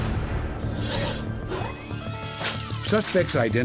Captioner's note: mechanical sounds